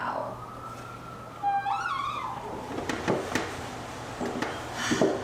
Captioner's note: door creaking